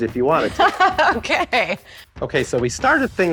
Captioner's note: laughs